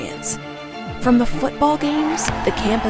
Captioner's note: crowd cheering